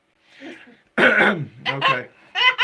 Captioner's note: clearing throat